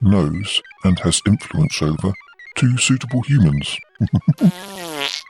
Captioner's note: laughs; passing wind